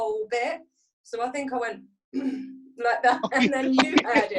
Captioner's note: clears throat